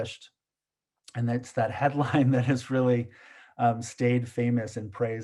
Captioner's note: chuckles